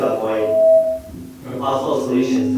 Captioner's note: mic gives feedback